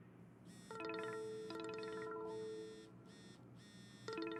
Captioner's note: phone ringing